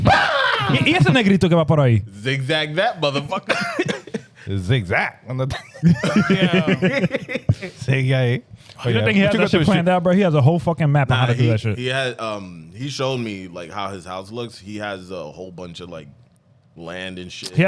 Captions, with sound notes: Zigzag that, motherfucker. (Laughing) Zigzag. (Laughing) Say yay. Oh yeah. You think he has a fucking map out of that shit? He has a whole fucking map out of that shit. He had, he showed me how his house looks, he has a whole bunch of land and shit.